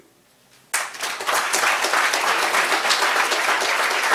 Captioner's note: applause